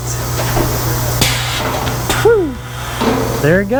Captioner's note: machine whirring